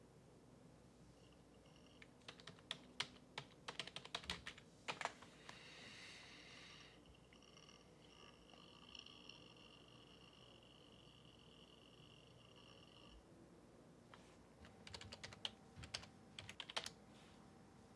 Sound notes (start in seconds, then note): 2.2 keyboard clicking; 6.4 computer whirring; 16.4 keys clicking